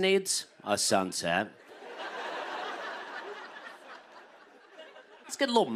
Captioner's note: laughter